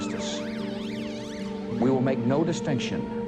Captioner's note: police sirens wailing